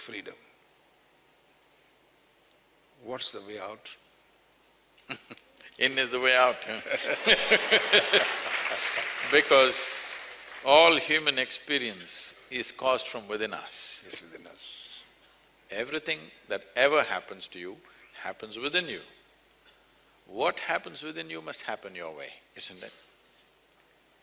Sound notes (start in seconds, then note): 2.4 Sadhguru laughs; 6.9 laughter/Applause